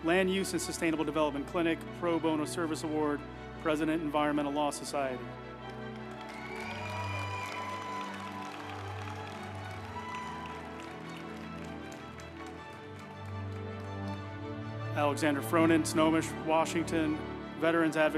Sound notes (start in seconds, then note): 5.6 group applauding; 6.0 uplifting music